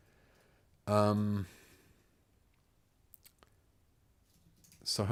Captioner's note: silence